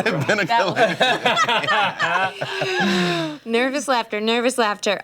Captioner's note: laughter